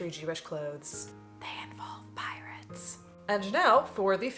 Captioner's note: whispers